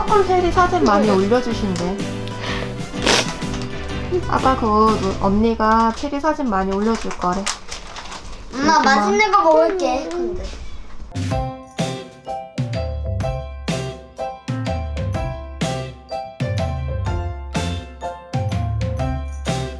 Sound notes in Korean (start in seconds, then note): 2.2 훌쩍